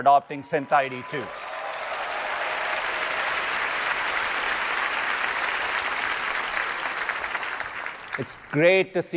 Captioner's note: applause